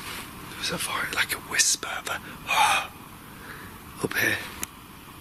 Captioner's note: whispering